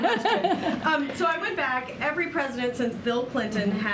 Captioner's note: laughter